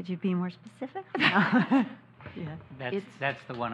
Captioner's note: laughs